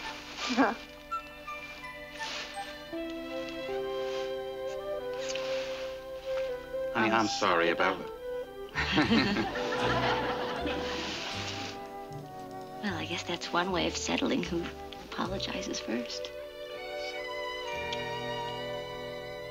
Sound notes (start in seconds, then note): 8.7 both laughing; 16.2 whispering